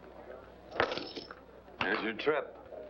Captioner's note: coins splashing